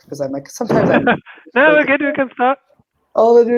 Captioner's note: chuckles